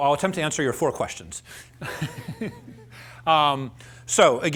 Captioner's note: laughs